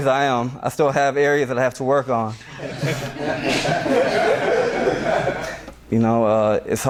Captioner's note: laughter from class